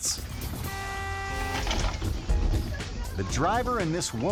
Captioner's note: horn beeping; upbeat music